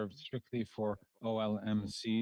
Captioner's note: speaking French